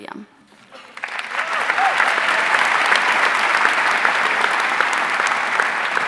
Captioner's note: audience cheering and applauding